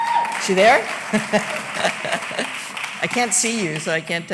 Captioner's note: applause